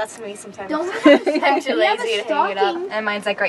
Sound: laughing

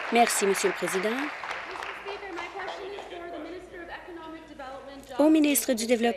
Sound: applause

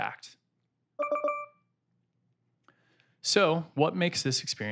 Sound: ringtone

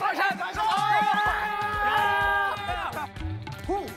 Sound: cheer / So good!

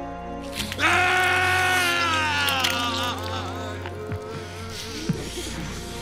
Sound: screaming; chewing

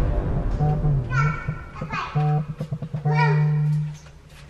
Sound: ominous tones; phone vibrates

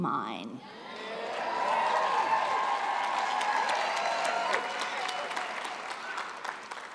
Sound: cheers

